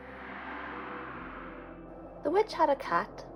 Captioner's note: wind